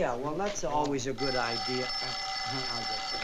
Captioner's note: phone rings